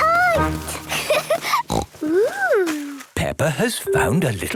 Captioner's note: giggling and snorting